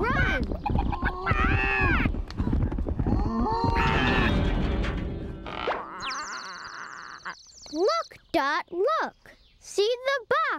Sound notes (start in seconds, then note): 5.3 squawking feebly